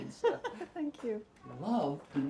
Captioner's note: giggling